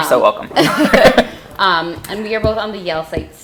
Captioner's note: laughing